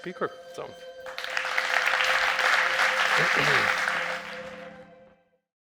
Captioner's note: audience applauds